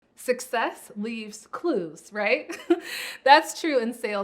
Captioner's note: chuckles